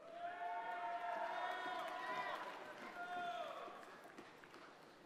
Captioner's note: audience cheers and applauds